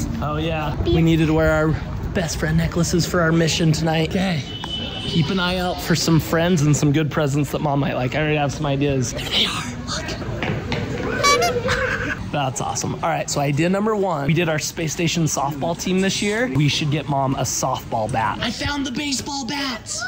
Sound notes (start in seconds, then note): 10.3 footsteps thudding; 11.1 person laughing; 11.2 horn beeping